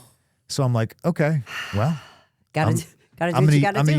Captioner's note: Stephanie exhales deeply